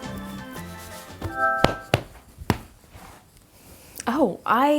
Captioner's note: device chimes